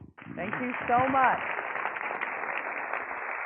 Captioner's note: crowd clapping